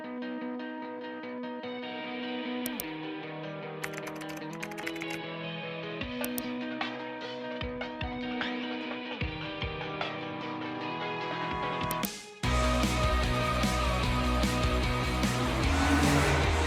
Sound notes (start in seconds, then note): 0.1 relaxing music; 3.9 keyboard keys clacking; 6.0 relaxing music; 12.5 upbeat music